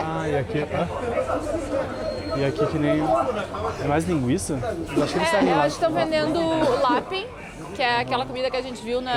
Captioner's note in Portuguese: risadas